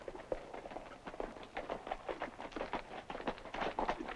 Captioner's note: hooves clop